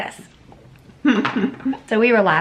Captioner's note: chuckling